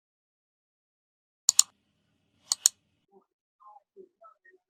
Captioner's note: mouse clicking